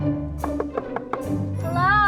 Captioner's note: knocks